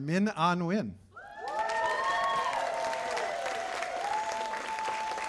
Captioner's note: cheers and applause